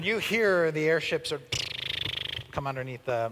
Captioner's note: engine sputtering sound